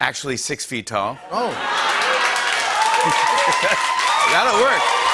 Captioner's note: cheers and applause